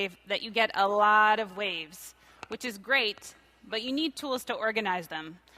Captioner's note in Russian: none